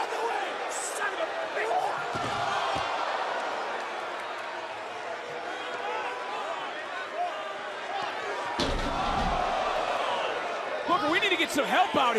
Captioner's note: yelling